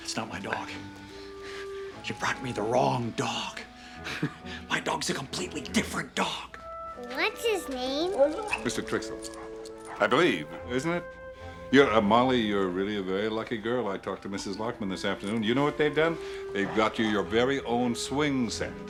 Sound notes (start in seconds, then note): 4.0 chuckles